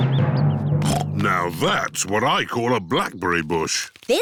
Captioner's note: snorts